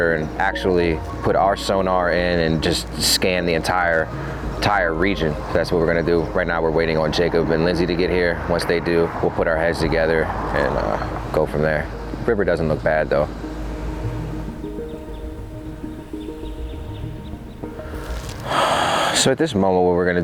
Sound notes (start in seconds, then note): 15.6 birds chirping; 15.6 soft music